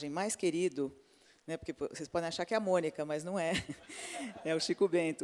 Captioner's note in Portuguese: risos